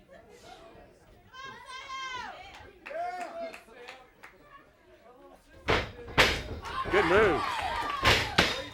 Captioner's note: crowd chatter